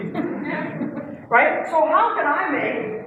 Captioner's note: laugh